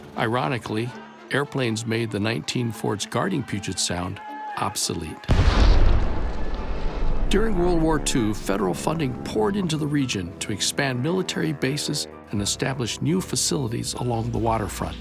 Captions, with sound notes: Ironically, airplanes made the 19 forts guarding Puget Sound obsolete [yelling, explosions]. During World War II, Federal funding poured into the region to expand military bases and establish new facilities along the waterfront.